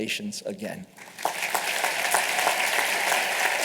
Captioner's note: applause